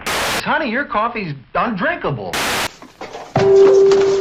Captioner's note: static; static; bong!